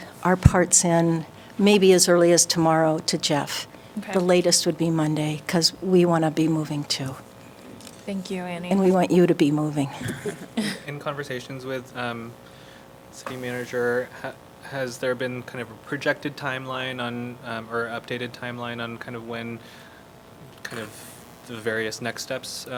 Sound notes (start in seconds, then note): 10.0 laughter